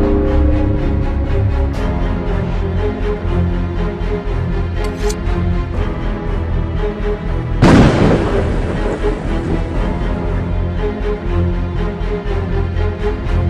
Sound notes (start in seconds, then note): 7.6 loud thunder